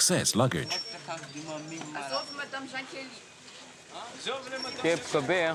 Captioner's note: Malagasy spoken audio